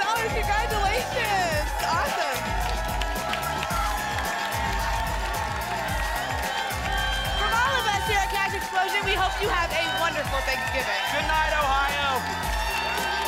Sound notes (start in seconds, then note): 2.7 applause and cheering cont